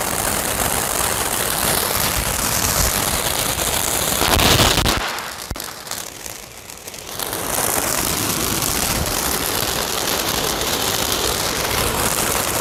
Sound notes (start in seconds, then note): 4.5 fireworks exploding; 8.5 fireworks crackling